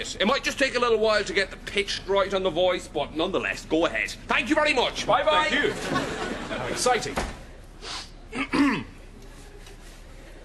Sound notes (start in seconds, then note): 8.3 sniffs and clears throat